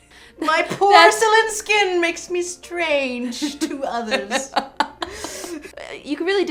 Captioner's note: laughs